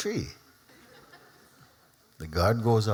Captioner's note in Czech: Smích